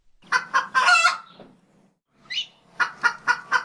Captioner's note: cock crowing